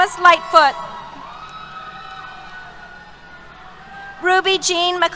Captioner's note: cheers